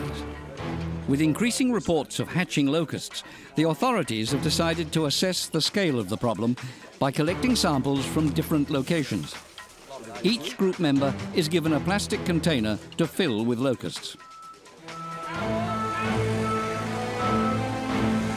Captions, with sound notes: With increasing reports of hatching locusts, the authorities have decided to assess the scale of the problem by collecting samples from different locations. Each group member is given a plastic container to fill with locusts. [car beeping] [suspenseful music]